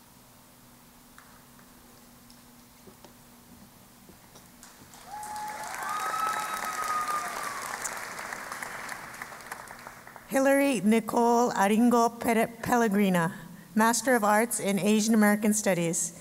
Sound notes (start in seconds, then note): 4.6 applause